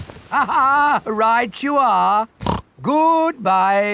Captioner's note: laughs; snorts